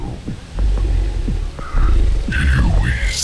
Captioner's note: growling